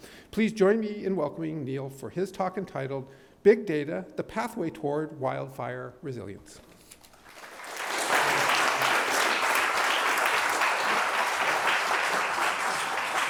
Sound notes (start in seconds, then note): 7.1 applause